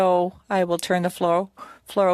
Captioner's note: speaking French